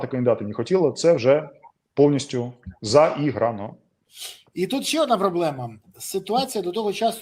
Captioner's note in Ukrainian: сопіння